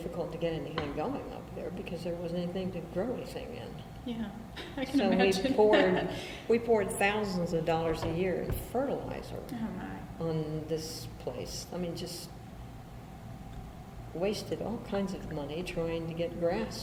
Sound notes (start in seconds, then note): 4.0 laughs